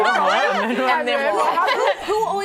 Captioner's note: laughter